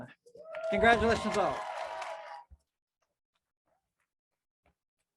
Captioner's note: crowd cheers